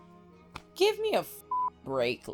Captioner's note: beep